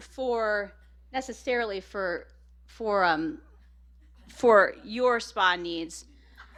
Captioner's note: laughter